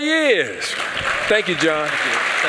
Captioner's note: applause